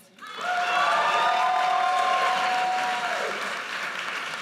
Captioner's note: audience cheers